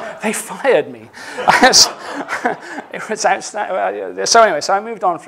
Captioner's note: laughter